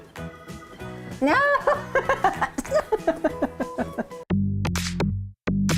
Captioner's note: laughing